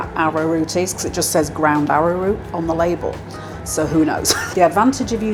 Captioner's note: laugh